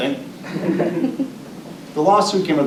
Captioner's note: audience laughing